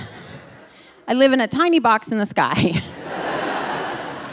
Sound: audience laughing; laughs

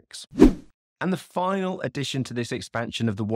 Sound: swooping transition

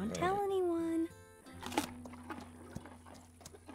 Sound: crunch

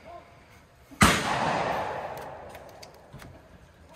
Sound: gun bangs

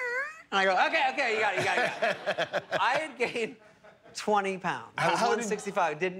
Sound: laughter

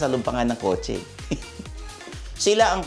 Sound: chuckles

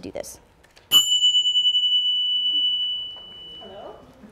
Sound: bells

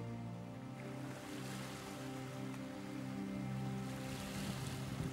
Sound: waves rolling

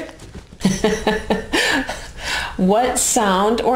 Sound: laughs

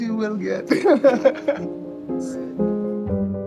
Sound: laughs; light music

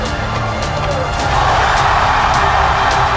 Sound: crowd roars

